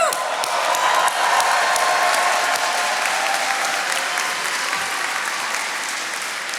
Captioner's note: attendees cheering and applauding